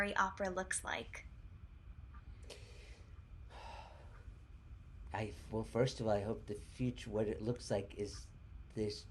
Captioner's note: sigh